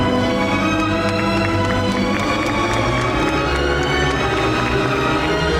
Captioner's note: audience applauds